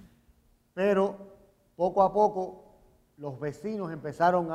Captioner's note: speaking in Spanish